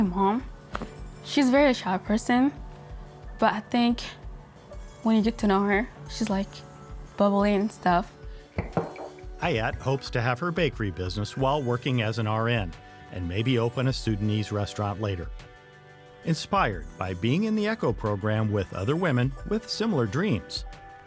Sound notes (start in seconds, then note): 8.6 clunking